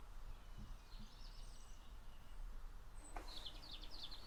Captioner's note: birds chirping